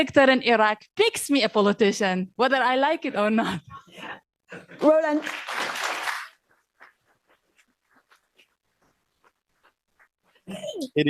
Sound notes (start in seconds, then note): 5.1 audience applause